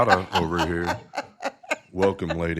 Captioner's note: everyone laughs